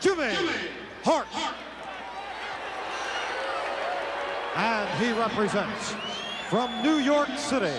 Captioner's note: applause